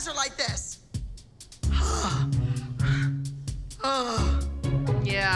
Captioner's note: sighing, groans; groans